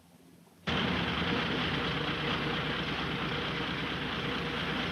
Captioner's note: Phantom engine revving